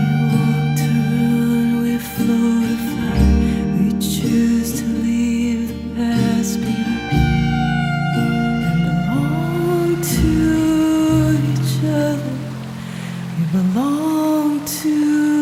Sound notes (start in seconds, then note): 8.5 water running